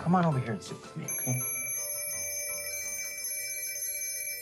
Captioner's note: phone ringing